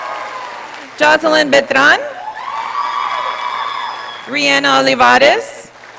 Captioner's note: audience applauding; audience applauding; audience applauding